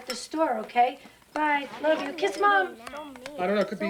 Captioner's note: kids bickering